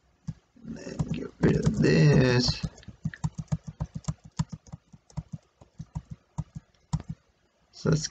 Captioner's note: continued tapping of keyboard